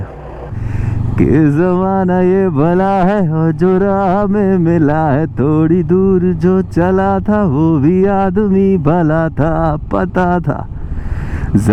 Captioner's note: humming a song